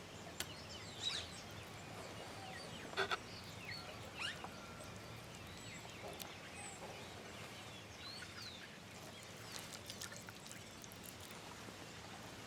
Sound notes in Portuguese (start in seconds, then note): 4.3 Pássaros cantando